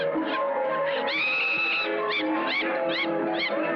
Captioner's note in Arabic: يضحك